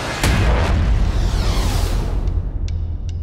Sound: bus whooshing

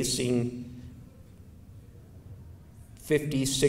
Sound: silence

